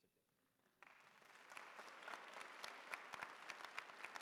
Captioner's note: applause